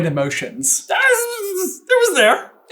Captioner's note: high pitched stutterment